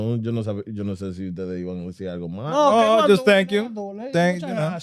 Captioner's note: speaking Spanish